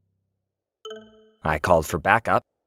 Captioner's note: phone ding